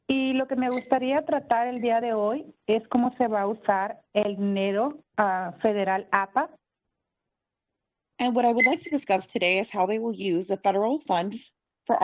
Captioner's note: speaking Spanish